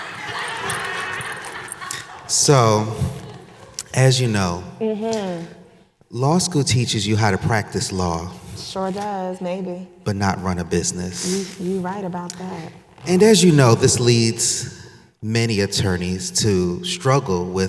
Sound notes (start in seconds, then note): 0.0 audience laughing